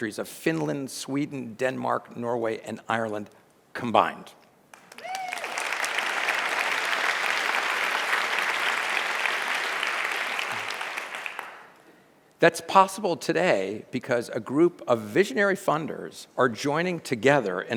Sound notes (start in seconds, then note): 4.8 audience cheers and applauds